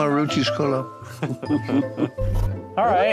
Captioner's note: chuckles